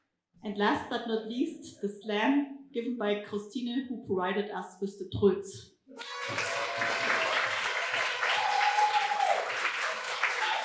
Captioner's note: applause and audience toots